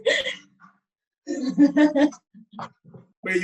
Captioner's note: laughing; laughs